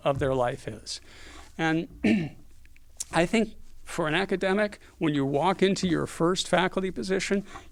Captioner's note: cough